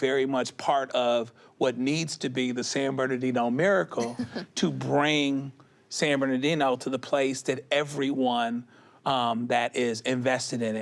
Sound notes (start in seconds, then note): 4.0 chuckles